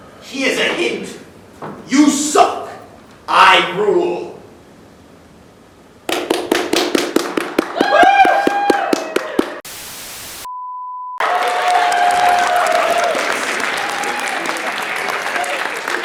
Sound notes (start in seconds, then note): 6.1 applause; 9.6 tv static; 11.2 applause